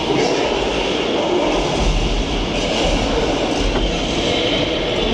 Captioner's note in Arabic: زمجر الديناصورات